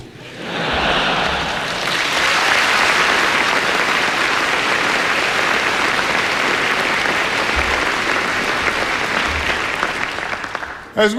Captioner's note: laughter and applause